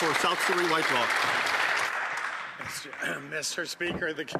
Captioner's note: some Applause